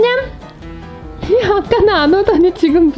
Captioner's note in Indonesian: tertawa